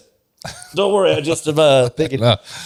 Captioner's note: laughs